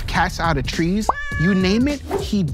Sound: cat meows

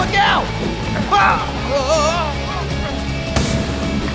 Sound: exclaims

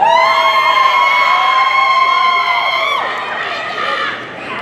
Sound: audience cheering

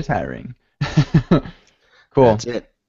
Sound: laughter

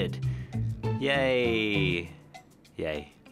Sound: unenthusiastically

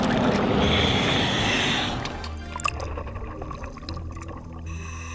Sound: heavy breathing

